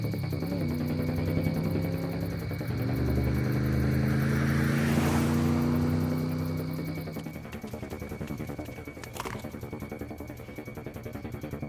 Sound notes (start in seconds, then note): 3.1 suspenseful music continues; 3.1 vehicle droning